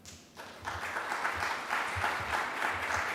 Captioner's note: clapping